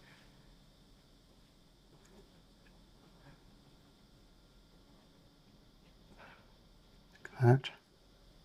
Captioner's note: silence